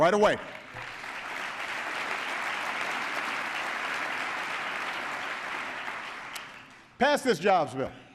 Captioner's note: applause